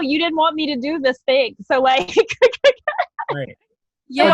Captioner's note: laughs